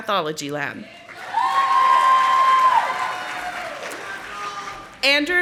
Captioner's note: audience applauding